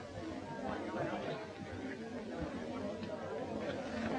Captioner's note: all chattering